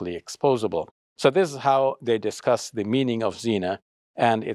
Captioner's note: speaks Arabic